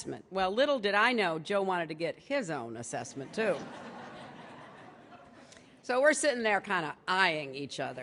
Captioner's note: laughter